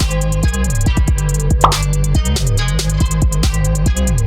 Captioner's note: pop!